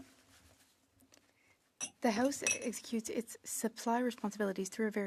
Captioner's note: speaking French